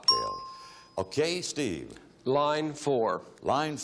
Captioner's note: bell chimes